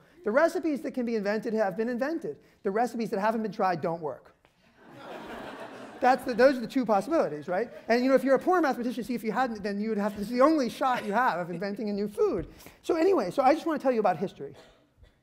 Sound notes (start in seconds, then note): 4.7 laughter